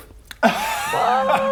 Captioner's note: honest laugh